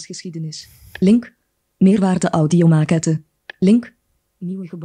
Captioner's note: speaks in foreign language